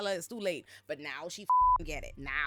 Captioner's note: beep